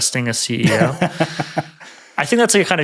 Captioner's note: laughing